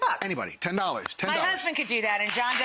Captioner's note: audience applauds